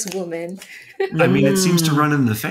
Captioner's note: chuckling